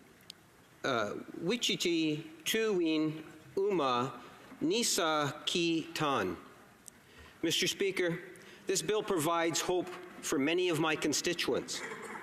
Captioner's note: speaking Indigenous Language